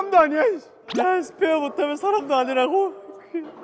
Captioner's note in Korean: 스윽